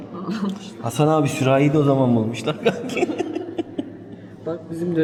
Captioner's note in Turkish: kahkaha